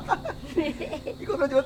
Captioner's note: both laughing